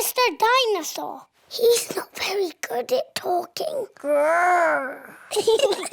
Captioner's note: whispers; both giggle